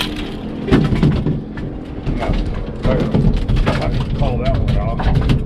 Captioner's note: fish thrashing